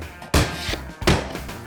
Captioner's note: hammer tapping